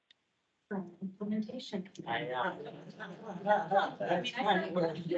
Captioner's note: members laughing